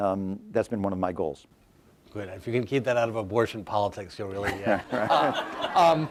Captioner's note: laughter